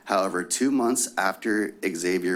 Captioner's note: none